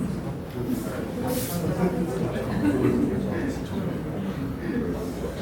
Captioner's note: crowd murmuring